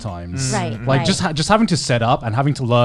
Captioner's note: group agreeing